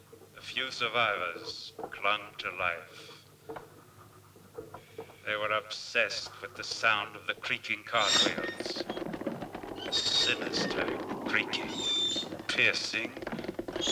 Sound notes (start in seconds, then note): 8.6 cart wheels creaking